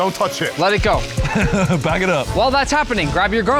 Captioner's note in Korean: 웃음